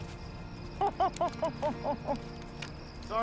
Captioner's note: laughing